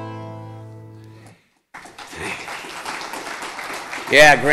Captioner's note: audience clapping